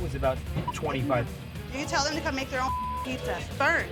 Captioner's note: beep